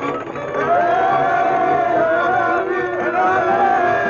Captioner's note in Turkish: Heeyy bağırışları